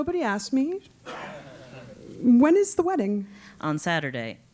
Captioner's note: laugh